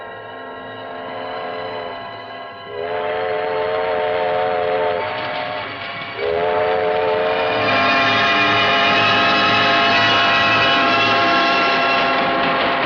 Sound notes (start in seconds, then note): 1.3 train horn blares